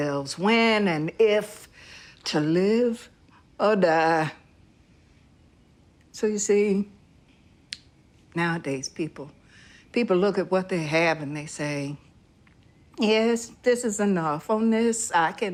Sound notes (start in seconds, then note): none